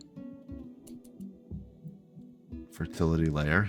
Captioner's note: silence